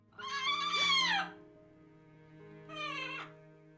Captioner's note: Vincent squawks